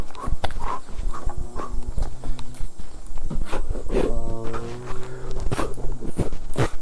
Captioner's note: panting & chanting continues